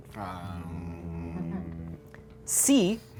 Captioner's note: humming